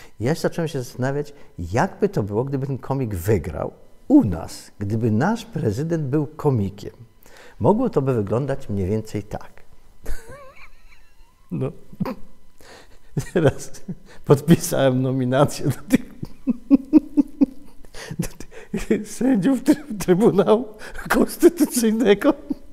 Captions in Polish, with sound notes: Ja się zacząłem zastanawiać, jak by to było, gdyby ten komik wygrał u nas - gdyby nasz prezydent był komikiem? Mogło to by wyglądać mniej więcej tak: (śmiech) Podpisałem nominacje do tych (śmiech) ... sędziów Trybunału Konstytucyjnego.